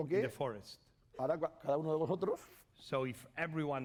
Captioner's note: speaking spanish